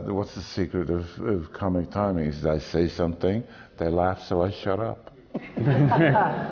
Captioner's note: laughter